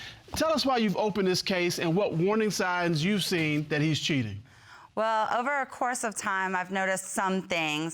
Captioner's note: none